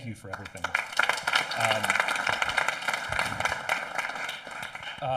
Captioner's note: audience applauding